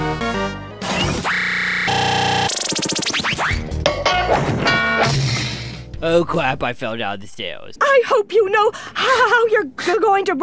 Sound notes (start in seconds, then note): 3.8 crashing and clattering